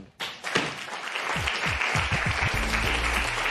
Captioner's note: applause